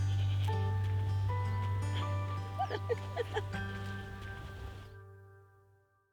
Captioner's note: chuckling